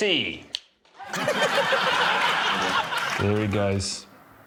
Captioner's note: laughter